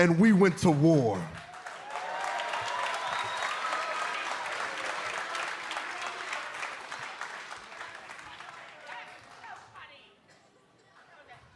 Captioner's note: cheers and applause